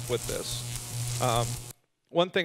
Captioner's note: electricity buzzing